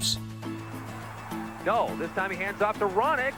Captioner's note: crowd roaring